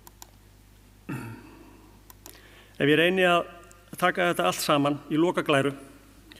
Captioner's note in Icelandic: ræskir sig